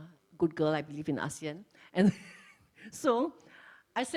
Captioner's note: laughs